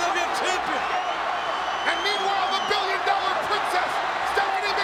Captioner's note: applause